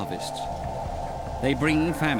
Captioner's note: howling wind